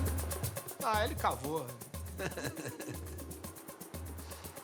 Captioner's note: laughs